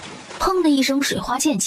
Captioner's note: splash!